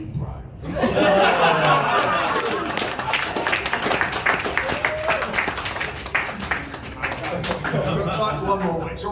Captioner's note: laughter, applause, whooping